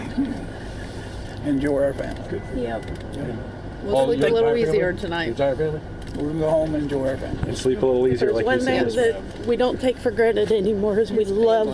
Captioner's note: laughter